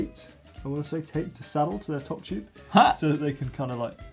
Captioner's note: laughs